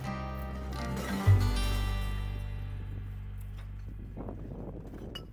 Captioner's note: glass rattling